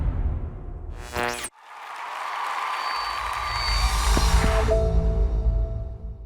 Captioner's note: cheers and applause